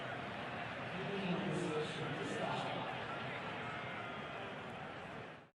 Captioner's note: pa announcement